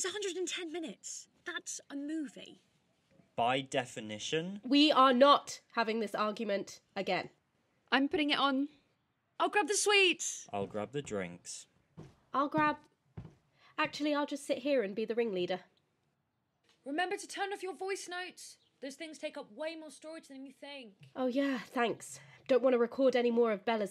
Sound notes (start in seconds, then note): 11.5 footsteps; 15.9 voice fading